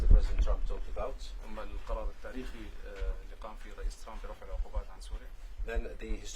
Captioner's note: speaking Arabic